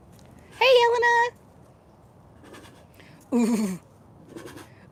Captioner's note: chuffing sounds